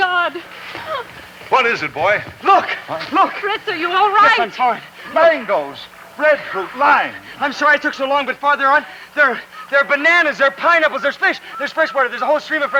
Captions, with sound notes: - Well, God, if ever you made fish bite, make them bite now. (wildlife clamoring)